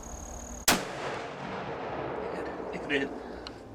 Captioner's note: gun roars